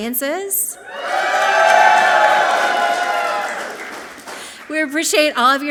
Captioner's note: audience clapping and cheering loudly